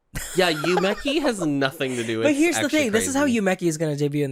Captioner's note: giggles